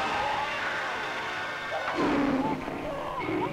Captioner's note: Cheetah roars